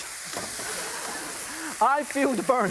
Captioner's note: audience laughs